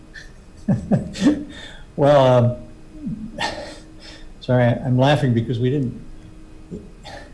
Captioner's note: laughs